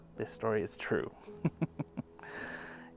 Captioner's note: laughs